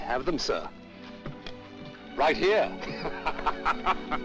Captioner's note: laughing